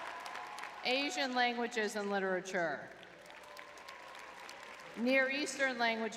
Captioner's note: crowd cheering; crowd clapping